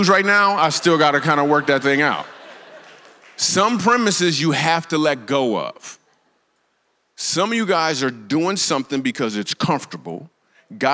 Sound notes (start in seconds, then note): 2.3 congregation laughs